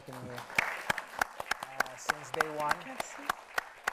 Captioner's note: audience applauds